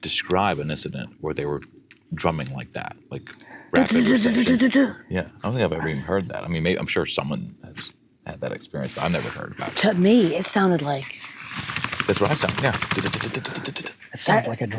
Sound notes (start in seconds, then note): 3.7 vocalizing; 11.9 banging; 14.0 vocalizing